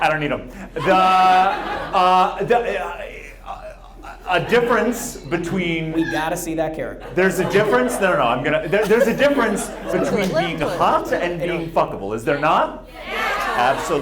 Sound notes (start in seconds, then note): 0.6 audience laughs; 2.4 stammers